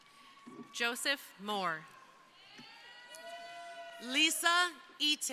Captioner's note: crowd cheering